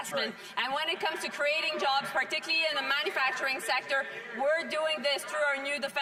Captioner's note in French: voix de l'interprète